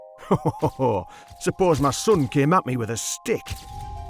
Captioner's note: laughing